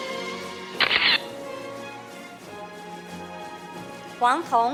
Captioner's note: camera shatters